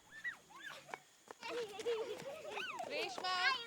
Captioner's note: children laughing